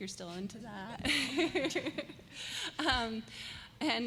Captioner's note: laughter